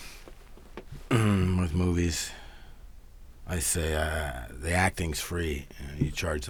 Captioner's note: clears throat